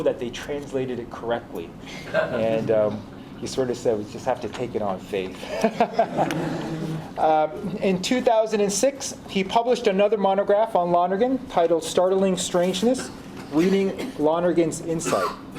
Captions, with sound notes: that they translated it correctly? And he sort of said we just have to take it on faith (laughs). (audience laughs) In 2006, he published another monograph on Lonergan titled Startling Strangeness, Reading Lonergan's Insight.